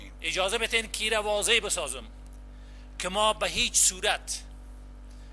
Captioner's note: translator speaking in foreign language